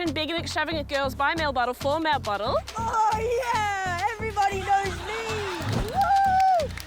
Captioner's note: british accent